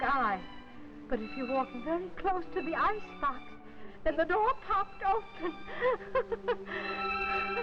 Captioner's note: laughter